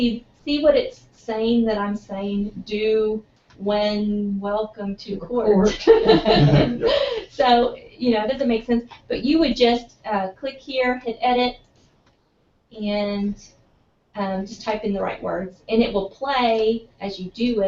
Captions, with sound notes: see what it's saying, that I'm saying do, when, welcome to court. >> Court. [LAUGH] >> [LAUGH] >> [LAUGH] So it doesn't make sense but you would just click here, hit Edit, and just type in the right word, and it will play as you do it and